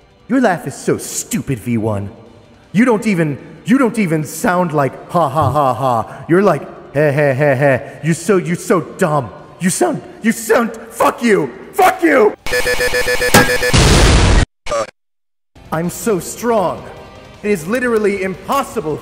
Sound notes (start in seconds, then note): 13.2 righteous stabbing/exploding